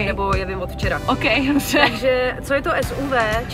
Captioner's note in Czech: smích